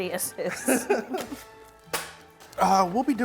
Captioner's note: laughing